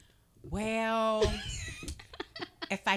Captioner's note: laughing